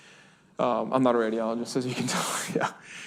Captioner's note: laughs